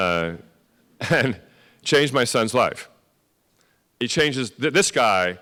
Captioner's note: laugh